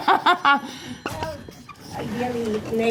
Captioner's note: laughs